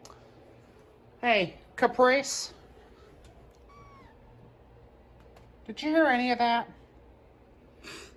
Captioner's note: meows